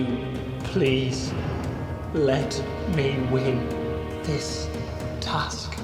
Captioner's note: none